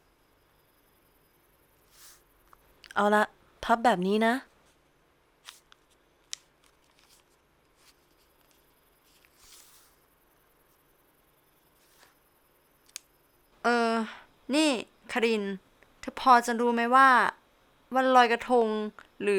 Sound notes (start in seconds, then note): 6.2 the sound of folding banana leaves